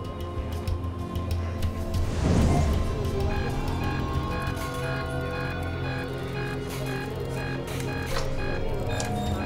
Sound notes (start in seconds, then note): 3.2 monitor beeping